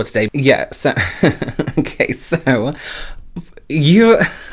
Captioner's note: chuckles